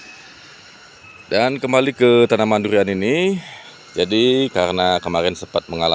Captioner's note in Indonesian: menghela napas